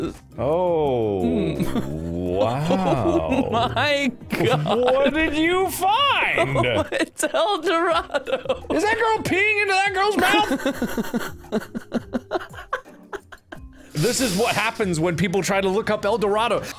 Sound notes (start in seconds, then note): 10.1 laughs